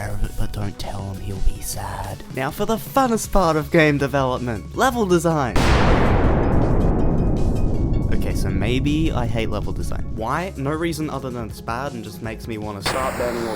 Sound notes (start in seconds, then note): 5.5 booom